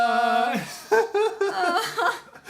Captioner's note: laughs